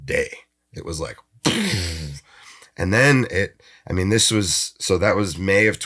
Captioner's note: imitates explosion